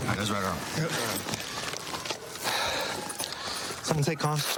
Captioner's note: sirens blaring